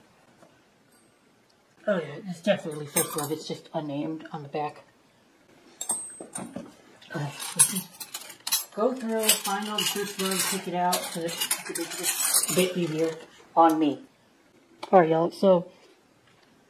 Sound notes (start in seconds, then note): 5.8 clink